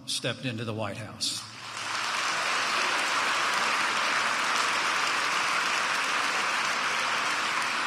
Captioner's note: applause